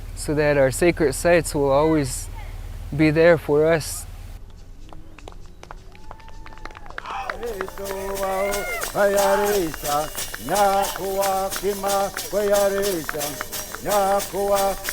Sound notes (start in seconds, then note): 5.3 crowd clapping and cheering; 7.2 shaker music